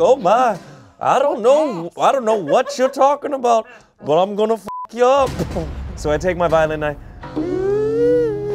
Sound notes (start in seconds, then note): 4.6 beep